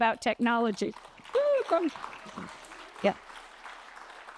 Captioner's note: applause